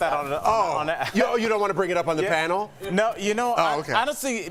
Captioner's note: laughter